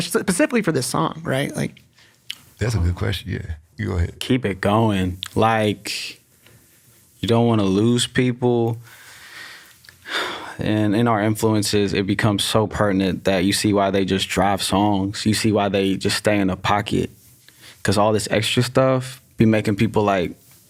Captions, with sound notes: Specifically for this song, right, like? - That's a good question. Yeah. You go ahead. - Keep it going. Like you don't wanna lose people. [inhales sharply] [sighs] And in our influences it becomes so pertinent that you see why they just drive songs. You see why they just stay in a pocket, 'cause all this extra stuff be making people like,